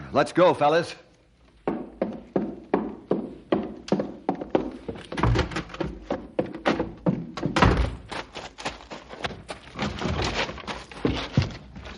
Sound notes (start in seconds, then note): 3.5 knocking; 5.0 door rattling; 10.1 door rattling